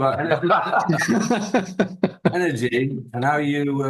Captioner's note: laughing